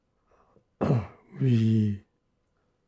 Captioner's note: clears throat